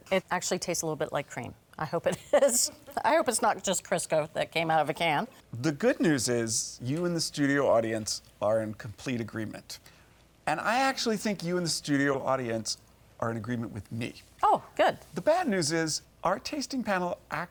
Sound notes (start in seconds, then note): 2.6 laughs